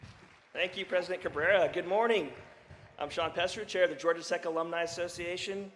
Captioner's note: applause